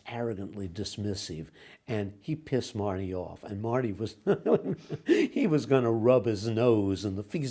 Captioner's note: laughs